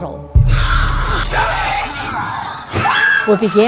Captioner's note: scary sounds